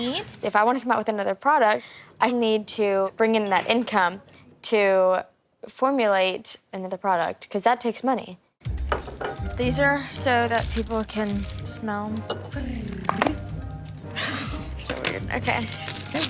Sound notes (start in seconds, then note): 12.2 chuckles; 12.2 trills